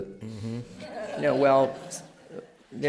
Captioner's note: laughter